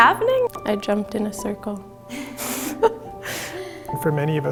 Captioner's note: laughs